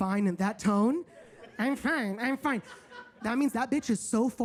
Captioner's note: audience laughs